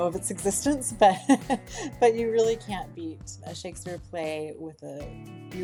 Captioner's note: laughs